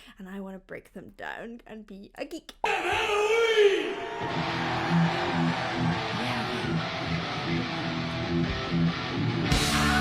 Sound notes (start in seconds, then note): 2.6 audience cheering; 7.3 low rhythmic music